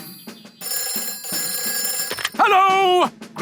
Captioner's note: telephone ringing